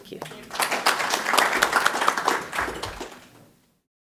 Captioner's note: applause